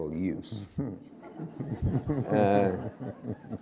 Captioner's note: laughter